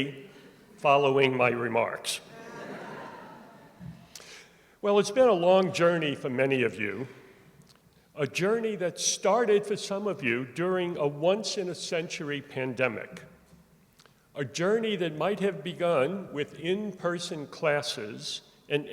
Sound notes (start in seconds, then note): 2.3 laughter